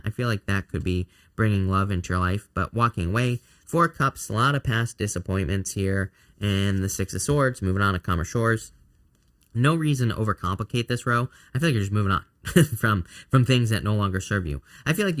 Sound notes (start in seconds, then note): 12.4 chuckles